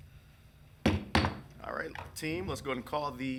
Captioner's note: gavel pounding